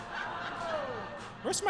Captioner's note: audience laughs